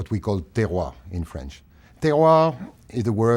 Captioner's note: speaking french